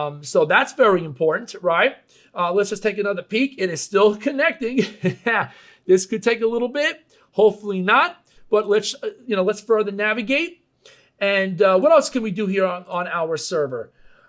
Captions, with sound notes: So that's very important, right? Let's just take another peak. It's still connecting (laughing). This could take a little bit, hopefully not, but let's further navigate, and what else can we do here on our server?